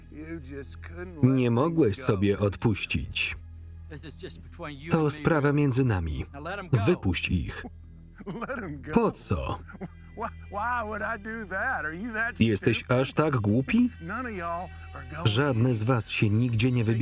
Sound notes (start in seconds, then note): 8.2 chuckling